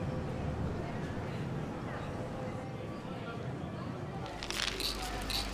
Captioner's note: people chattering; pills rattling